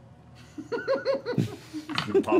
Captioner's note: laughing